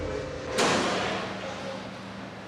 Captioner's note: door clangs shut